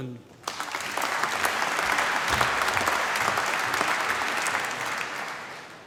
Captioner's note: applause